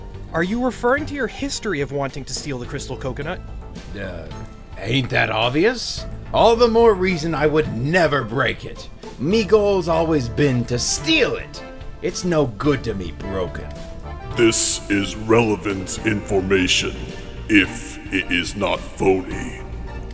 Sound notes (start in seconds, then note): none